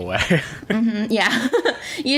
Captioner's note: laughs